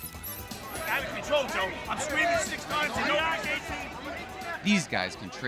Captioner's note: shouting